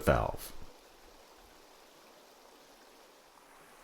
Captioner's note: rushing water